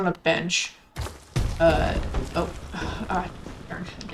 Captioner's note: sighs